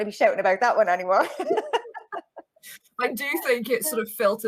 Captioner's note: chuckles